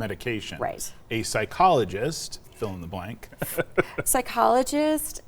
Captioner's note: laughing